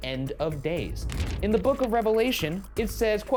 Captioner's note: pages rustle